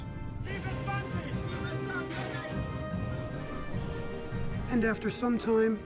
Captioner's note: alarm bell ringing; men shouting in foreign language